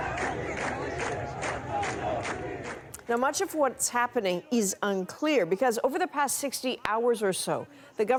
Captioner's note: chanting